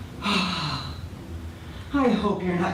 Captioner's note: sighs